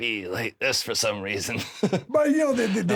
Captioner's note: chuckles